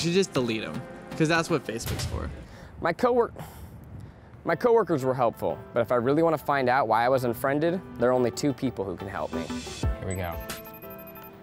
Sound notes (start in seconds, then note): 3.4 sigh